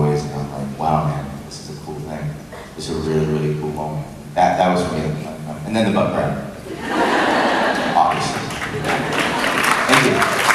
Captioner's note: crowd laughs and applauds